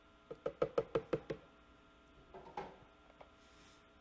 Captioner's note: tapping